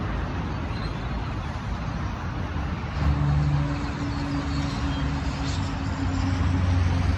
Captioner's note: the hum of traffic continues